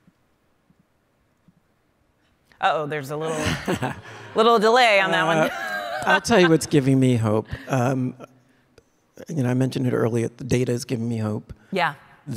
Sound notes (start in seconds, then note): 4.9 panelists and audience laughing; 4.9 laughing